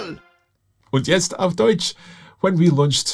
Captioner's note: speaks in foreign language